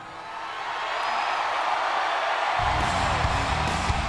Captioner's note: crowd cheers